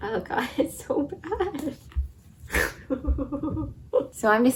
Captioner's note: snort laugh